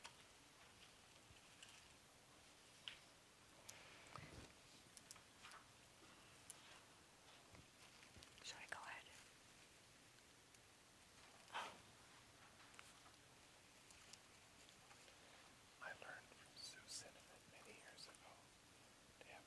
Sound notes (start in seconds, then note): 8.5 whispering; 16.0 whispering